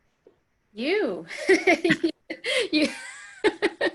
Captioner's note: laughing